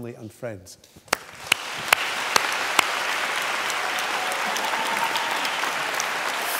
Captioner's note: applause